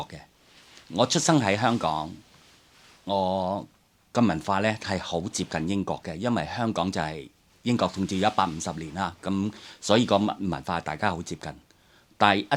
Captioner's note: Cantonese